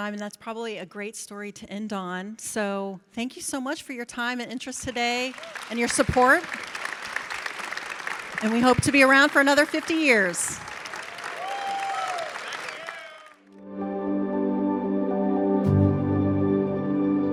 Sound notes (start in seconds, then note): 6.9 audience clapping; 10.9 audience cheers and claps; 13.6 bright music